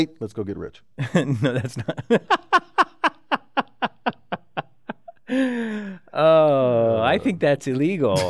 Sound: laugh

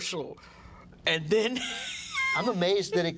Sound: laughs

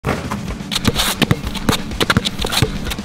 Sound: ball bouncing

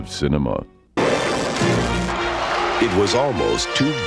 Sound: electric crackling

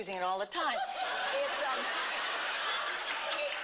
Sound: laughter

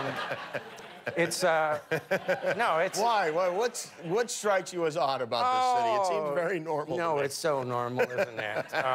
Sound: laughter

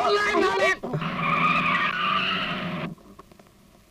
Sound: brakes squeal

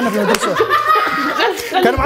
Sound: laughing

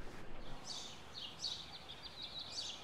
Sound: birds chirp

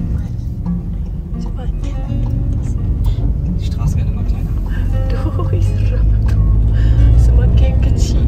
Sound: speaking German

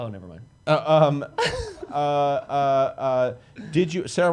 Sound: laughs

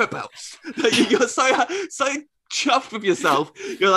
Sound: laughter

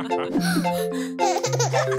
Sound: xylophone music; kids gasp; baby laughing

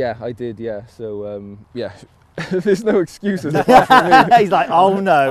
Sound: all laugh

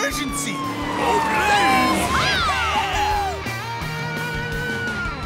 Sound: cheering

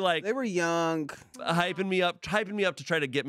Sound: none

